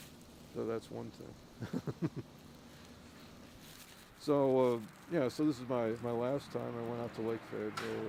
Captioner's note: laughs